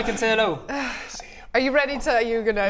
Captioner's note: sigh